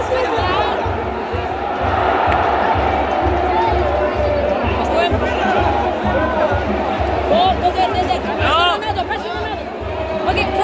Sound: clap

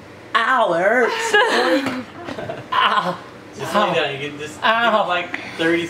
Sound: laughs

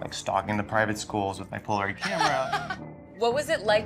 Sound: laughs

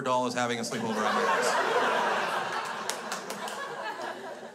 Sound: crowd laughs

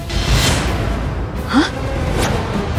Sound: dramatic music playing; gasps

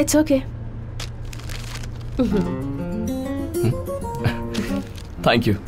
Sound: paper crinkling

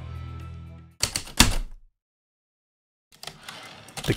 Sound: heavy typewriter keystrokes and slide return

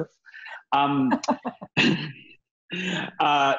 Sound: laughs

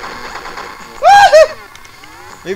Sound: childish screams

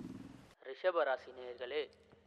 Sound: laptop voice

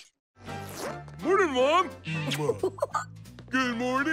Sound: laughing

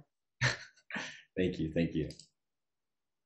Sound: chuckles

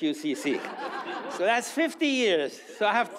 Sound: audience laughs

